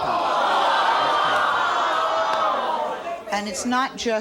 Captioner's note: audience gasps